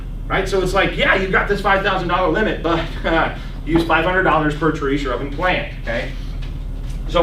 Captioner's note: laughs